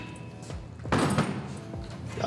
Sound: hammer set down

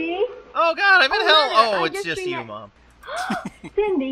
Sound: chuckles

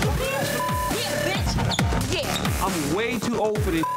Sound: beeps; beeps

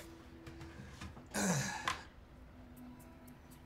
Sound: clears his throat

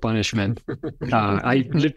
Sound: laughter

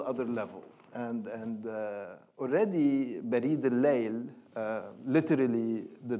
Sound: speaking in foreign language

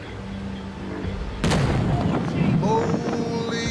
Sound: explosion

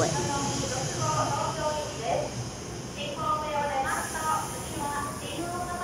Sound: announcer speaking in Japanese

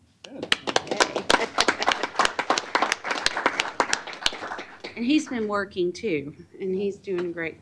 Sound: applause

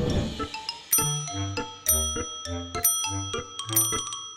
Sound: dinging

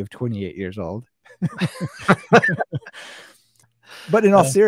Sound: both laughing

